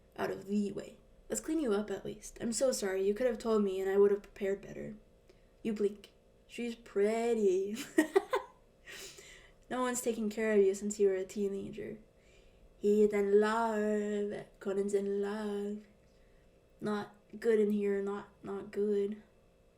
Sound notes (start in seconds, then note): 7.8 laughs